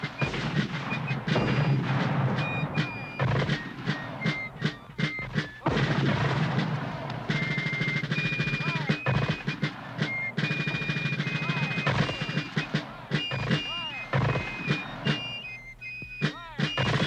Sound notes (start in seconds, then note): 5.1 mortar fire booming